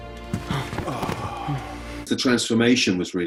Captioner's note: characters sigh